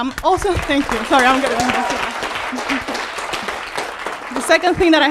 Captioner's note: audience applauding